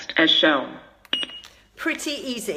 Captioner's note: defibrillator beeps